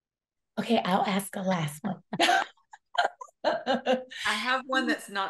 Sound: laughs

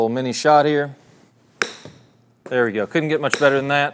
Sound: golf ball thumps

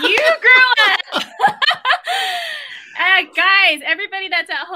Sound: laughs

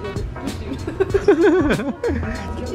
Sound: both chuckles

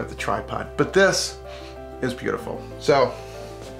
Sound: sniffing

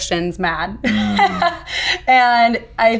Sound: laughing

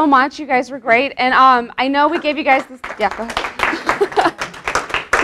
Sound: applause

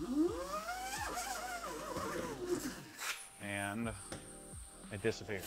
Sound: vacuum whirring

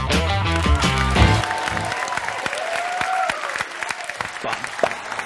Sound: upbeat music; audience applaud

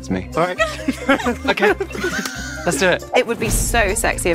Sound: group laughs

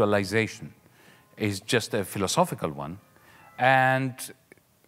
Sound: distant clock chiming

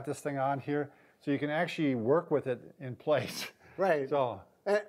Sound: laughs

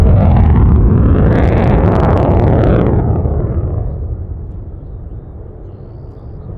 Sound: aircraft engine roaring intensely

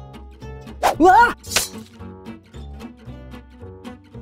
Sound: gentle music; knife chop

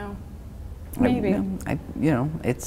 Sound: stammering

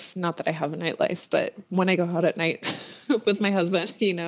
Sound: laughs

